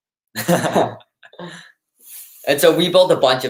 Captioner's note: laughs